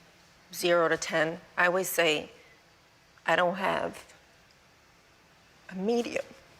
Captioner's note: voice breaking